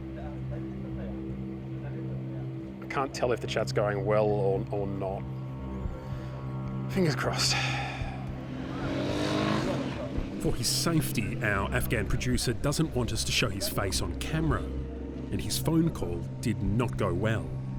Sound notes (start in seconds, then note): 7.4 sighs